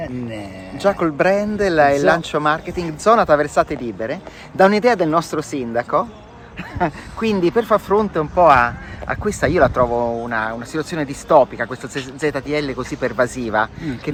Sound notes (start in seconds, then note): 6.5 haha